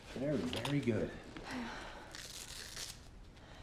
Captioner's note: breathing heavily